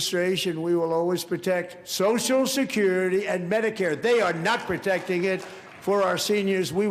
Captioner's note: applause